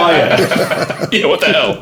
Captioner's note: laughing